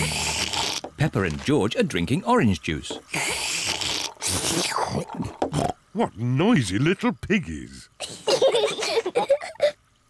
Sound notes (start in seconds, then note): 0.0 both slurping; 3.1 both slurping; 8.0 both laugh